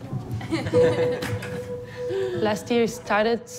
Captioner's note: all laugh